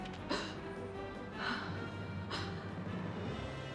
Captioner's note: gasps; breathes heavily